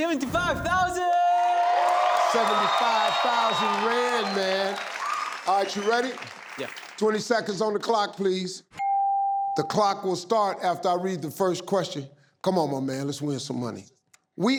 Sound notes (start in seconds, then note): 0.7 audience applauding; 8.8 clock beeping